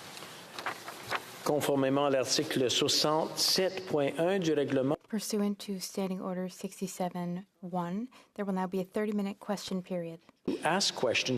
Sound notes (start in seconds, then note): 4.0 speaking French